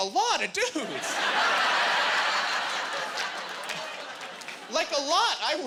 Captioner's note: laughing